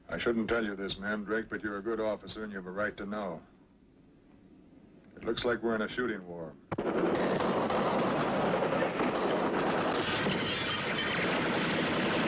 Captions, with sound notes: - I shouldn't tell you this, Mandrake, but you're a good officer and you have a right to know. It looks like we're in a shooting war. (gunshots firing)